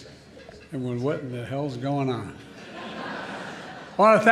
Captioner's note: laughter